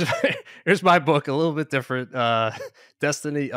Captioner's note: chuckles